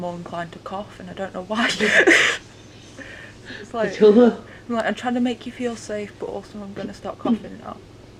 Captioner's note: laughs